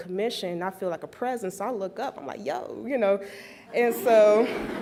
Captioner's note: laughs